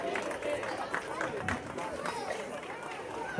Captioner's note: applause